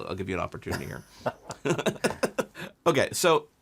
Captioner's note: both laughing